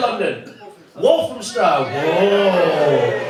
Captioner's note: cheering